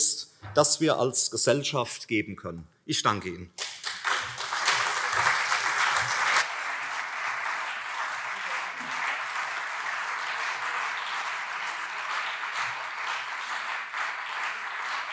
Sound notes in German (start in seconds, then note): 3.6 Anhaltender Beifall CDU und SPD